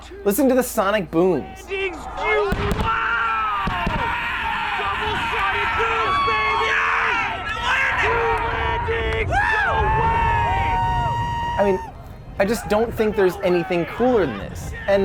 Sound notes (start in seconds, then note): 1.6 men yelling; 2.4 rockets booming; 3.7 men yelling; 6.9 crowd yelling